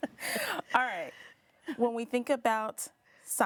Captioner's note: laughing